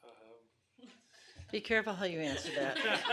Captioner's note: laughing